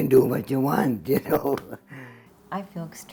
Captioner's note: laughs